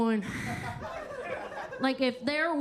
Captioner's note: Kentucky Lightning sighs; attendees laughing